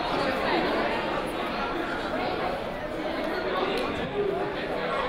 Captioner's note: crowd murmuring